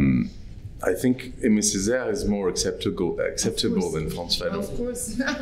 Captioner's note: french